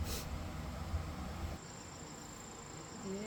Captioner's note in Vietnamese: khịt mũi